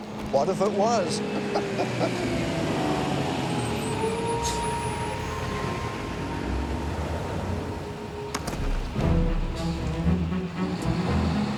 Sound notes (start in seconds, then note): 0.0 Dad laughs; 1.4 engine rumbling; 1.4 light music; 8.6 upbeat music